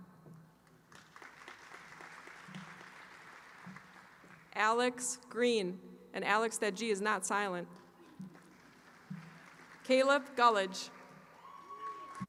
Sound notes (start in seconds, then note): 0.6 applause